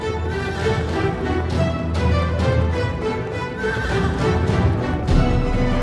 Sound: horses neighing and galloping

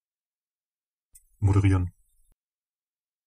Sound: fast Pronunciation

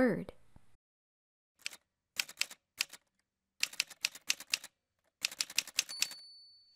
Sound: typewriter sounds

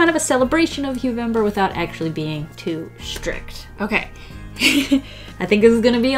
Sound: laughs

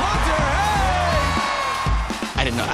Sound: cheering

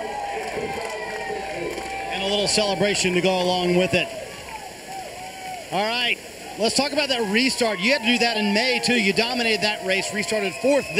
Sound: cheers

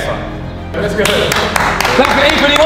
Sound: applauds

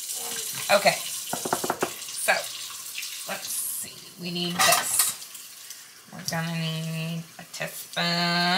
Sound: knocking on counter top

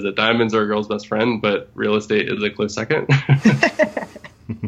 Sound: laughs; laughter

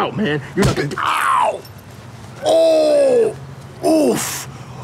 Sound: man painfully groaning

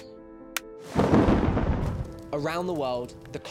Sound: thunder booming

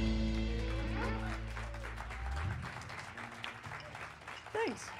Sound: ending notes fade; cheers and applause

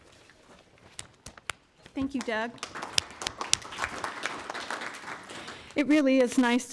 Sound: applause

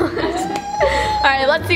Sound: laughter; baby babbling

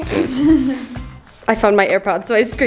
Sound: laughing

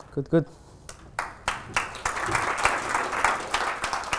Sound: applause

